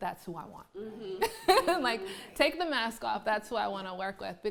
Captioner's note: laughs